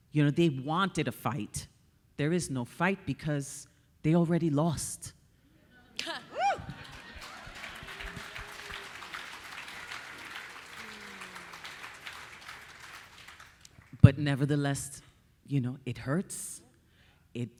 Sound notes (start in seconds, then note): 6.4 audience applauding; 7.8 audience cheering